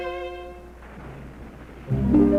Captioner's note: waves crashing; dramatic music